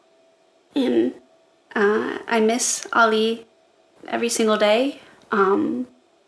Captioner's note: shaky voice